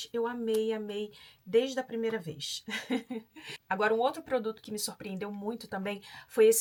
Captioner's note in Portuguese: risadas